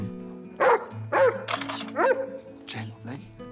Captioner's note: Dexter barking